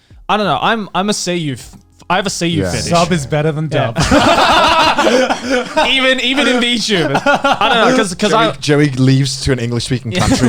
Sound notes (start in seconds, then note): 4.0 laugh drowns out voice of speaker